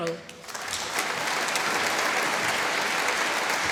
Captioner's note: applause